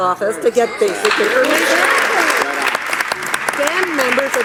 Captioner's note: audience applauding